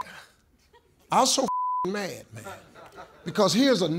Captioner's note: beep